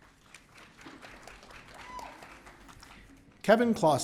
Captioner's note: audience cheering